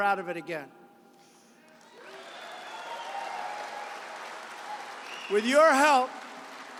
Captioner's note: applause